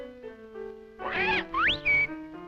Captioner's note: parrot squacks